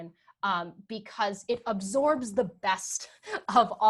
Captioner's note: laughs